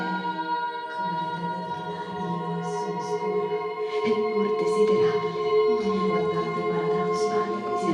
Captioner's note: crescendo of voices